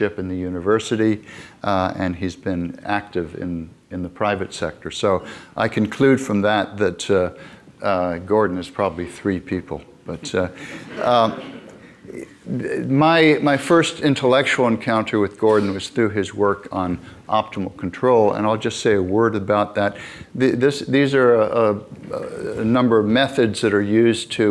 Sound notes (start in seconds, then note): 10.7 audience laughing